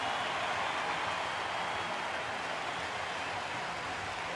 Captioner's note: cheering